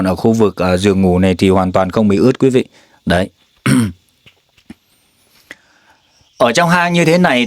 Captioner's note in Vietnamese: hắng giọng